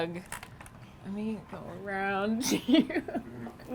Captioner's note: laughs